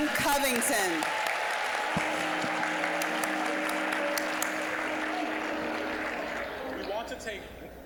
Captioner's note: applause